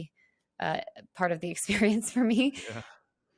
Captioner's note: laughs